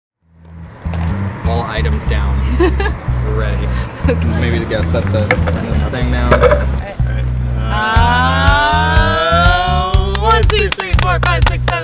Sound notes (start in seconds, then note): 2.5 laughing; 10.0 clapping